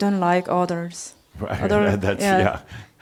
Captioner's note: chuckles